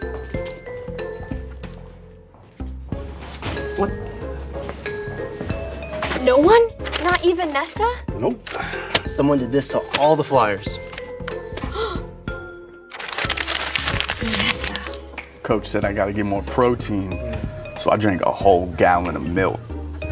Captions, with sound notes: What? No one? Not even Nessa? Nope. Someone did this to all the flyers. [Gasps] [Crumbles paper] Nessa! Coach said I got to get more protein so I drink a whole gallon of milk.